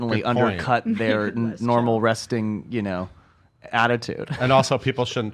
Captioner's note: laughs